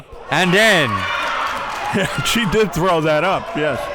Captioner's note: audience cheers; laughs